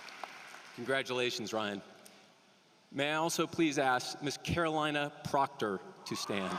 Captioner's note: applause